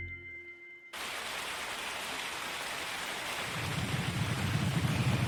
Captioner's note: rain pattering